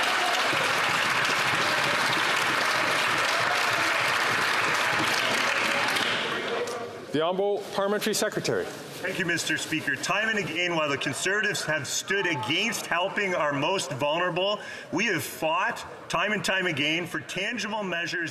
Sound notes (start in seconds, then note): 5.5 some Applause